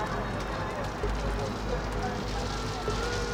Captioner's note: people chattering; sirens wailing